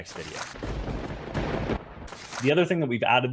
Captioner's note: lightning strike